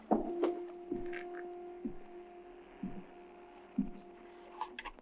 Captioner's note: Adam's footsteps